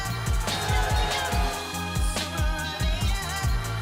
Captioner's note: cheering